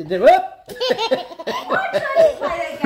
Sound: laughing

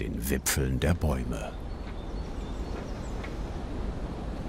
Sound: quiet chirping of birds

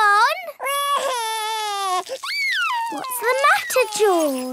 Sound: crying

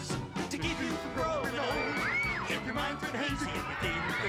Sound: all screaming

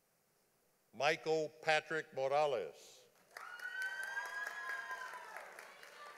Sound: audience applauding

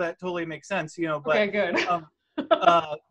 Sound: laughs

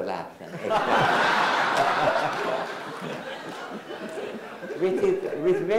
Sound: everyone laughs

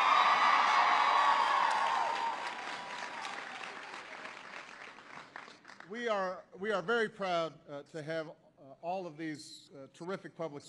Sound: applause

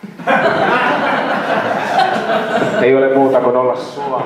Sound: laughter

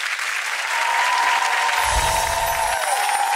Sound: cheering; chimes twinkling

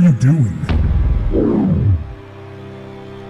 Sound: woosh

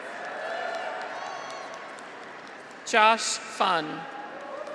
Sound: audience applauds; graduates cheer

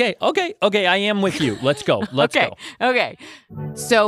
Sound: laughs

